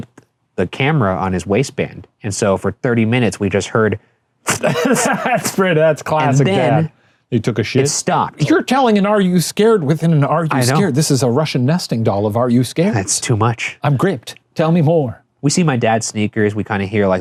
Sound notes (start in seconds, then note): 4.4 making rustling noises